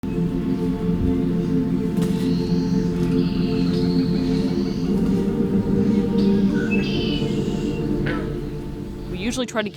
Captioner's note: bird calls